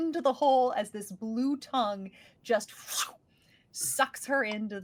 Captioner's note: imitates whooshing sound